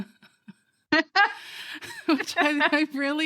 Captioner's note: laughing